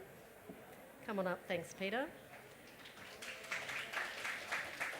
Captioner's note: applause